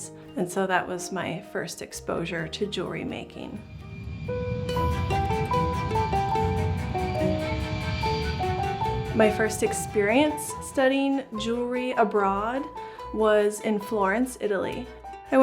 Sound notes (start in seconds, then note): 3.6 plane engine roaring; 4.4 upbeat music